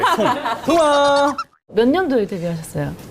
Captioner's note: haha